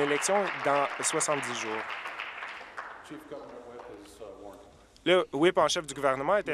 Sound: applause

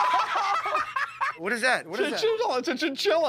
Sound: laughter

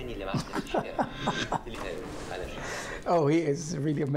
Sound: laughter

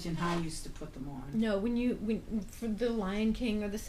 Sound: voiceover; voiceover

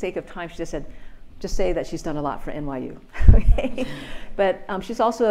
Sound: laughs

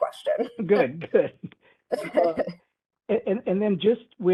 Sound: laughing

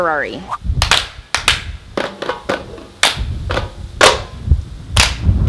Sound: clapping and tapping

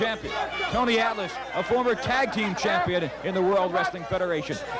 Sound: audience shouting

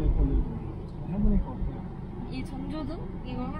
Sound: driving

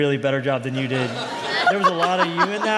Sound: laughter

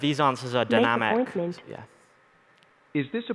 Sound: male Robotic Voice

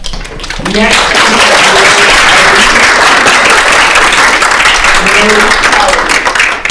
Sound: applause drowns out; attendees applauding

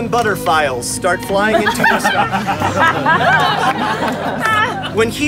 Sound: crowd laughs

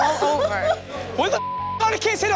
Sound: sobbing

